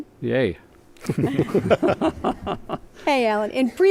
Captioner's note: laughter